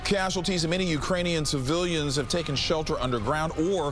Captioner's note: sirens blaring